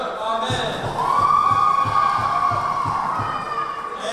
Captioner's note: cheering